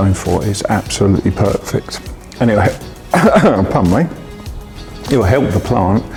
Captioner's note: coughs